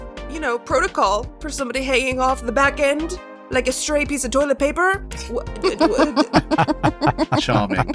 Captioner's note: EVERYONE laughs